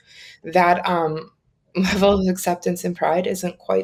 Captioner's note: giggles